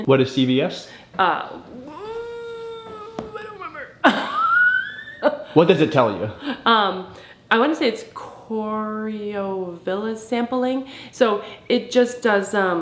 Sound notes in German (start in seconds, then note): 1.4 stöhnt; 4.9 lacht